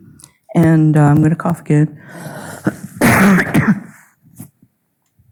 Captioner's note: coughing